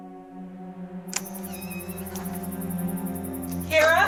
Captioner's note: door clicks